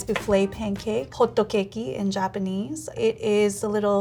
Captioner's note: speaking in Japanese